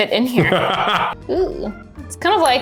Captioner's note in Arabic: يضحك بصوت عالٍ